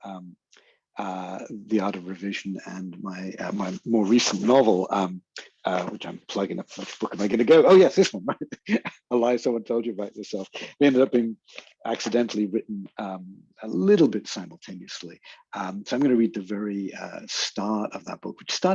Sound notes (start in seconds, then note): 6.3 chuckles